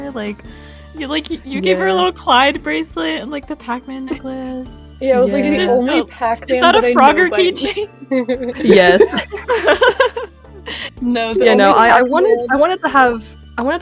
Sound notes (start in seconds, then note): 6.6 general happy muttering; 7.6 laughter; 11.3 more happy muttering